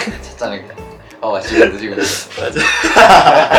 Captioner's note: chuckle